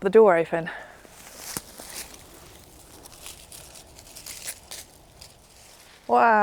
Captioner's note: crunchy leaves